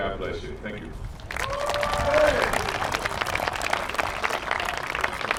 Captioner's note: applause